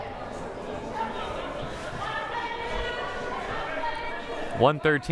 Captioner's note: crowd murmuring